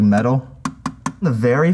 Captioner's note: taps grate